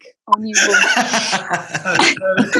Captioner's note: laughs